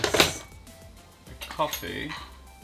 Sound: items clank

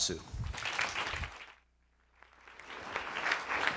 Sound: clapping

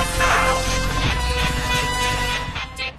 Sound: alarm blaring

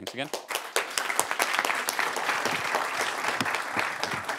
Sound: applause

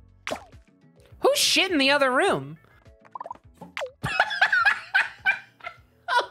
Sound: laughing

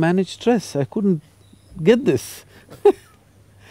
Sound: both Laugh

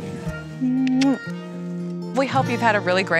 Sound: kisses

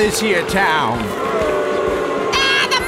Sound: crowd booing

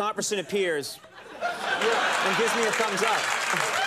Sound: crowd laughs

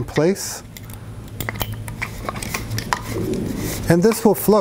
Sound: bottle clinks

